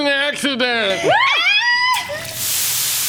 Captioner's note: scream